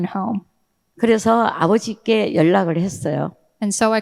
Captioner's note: speaking in foreign language